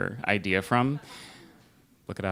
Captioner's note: laughter